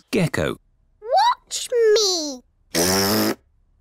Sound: blows raspberry

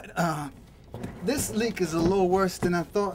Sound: thudding

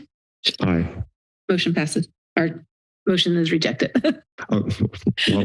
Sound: laughs

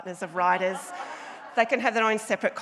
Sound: audience laughs

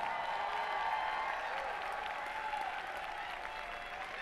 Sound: applause

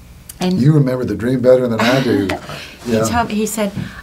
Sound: laughing

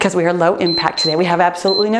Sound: timer beeps

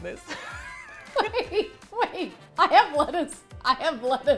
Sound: laughing

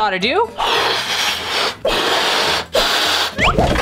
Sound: air blowing

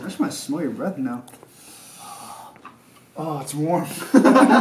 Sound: sniffing; laughter

